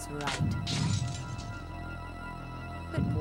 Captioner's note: device crunches